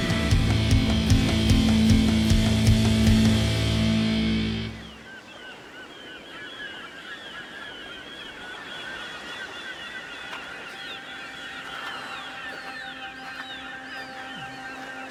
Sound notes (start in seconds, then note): 0.0 intense guitar and drums; 5.0 seagulls cawing far off